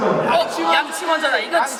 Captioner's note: all shout out brush first